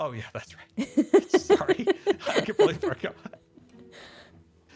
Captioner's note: laughs